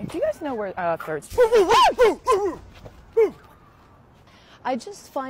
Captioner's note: barks; shrieks